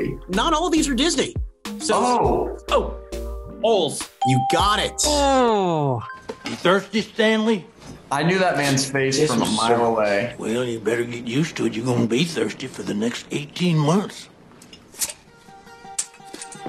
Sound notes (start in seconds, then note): 4.2 bell rings